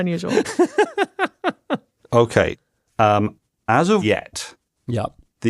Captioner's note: laughs